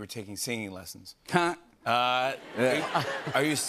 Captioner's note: laughter